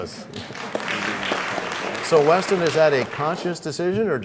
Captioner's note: applause